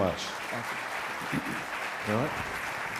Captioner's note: applause